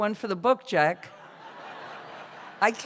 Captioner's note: laughter